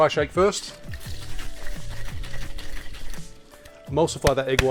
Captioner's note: cocktail bottle shaking